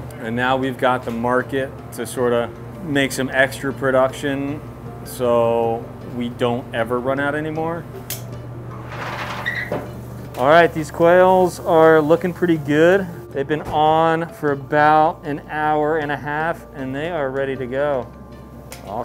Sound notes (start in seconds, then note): 8.1 snaps tongs; 8.7 lid creaks